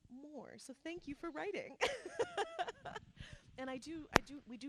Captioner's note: laughs